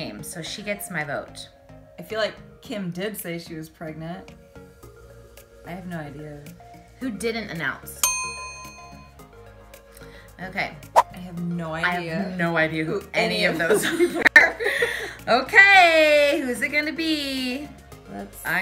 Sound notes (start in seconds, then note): 8.0 dinging; 14.7 laughing